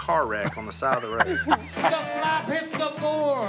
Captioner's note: Si laughs